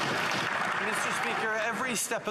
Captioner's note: some Applause